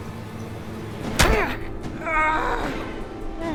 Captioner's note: thud